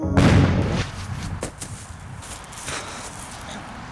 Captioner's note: crashes to ground